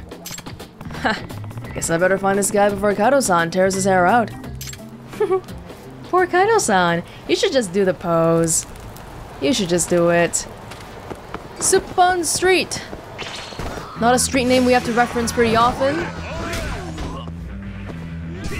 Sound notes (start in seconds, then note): 5.1 chuckles